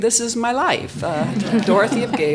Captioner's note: audience laughs